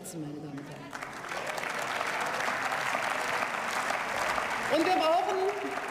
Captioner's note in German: Beifall